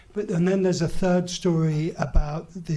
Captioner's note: none